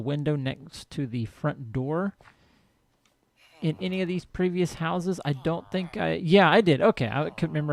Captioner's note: chattering continues